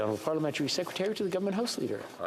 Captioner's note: speaking French